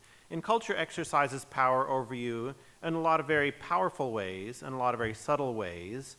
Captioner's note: none